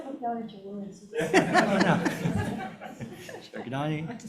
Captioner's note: everyone chuckling